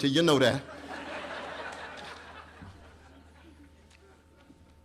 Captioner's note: laughter